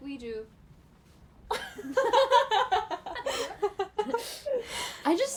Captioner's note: laughter